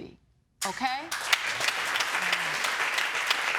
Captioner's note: audience applauding